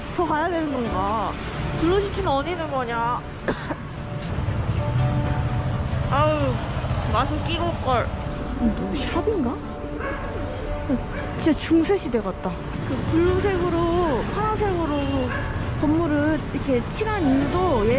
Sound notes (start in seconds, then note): 3.4 coughing